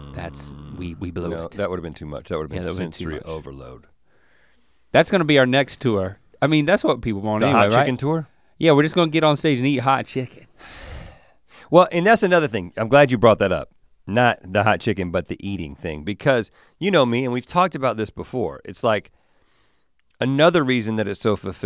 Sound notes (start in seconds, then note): 11.1 sighs